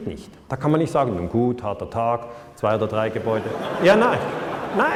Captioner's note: laughter